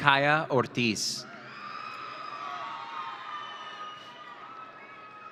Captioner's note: audience cheering